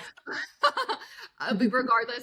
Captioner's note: laughs